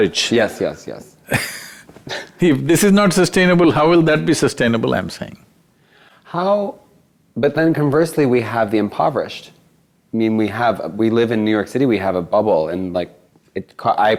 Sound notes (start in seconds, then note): 1.3 laughs